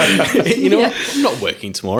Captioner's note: laughing